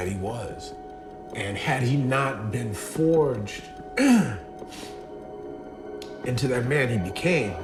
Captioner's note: clears throat